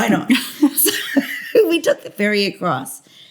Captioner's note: laughter